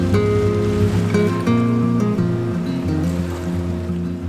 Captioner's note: engine rumbles